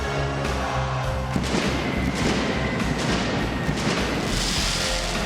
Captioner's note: pyrotechnics detonating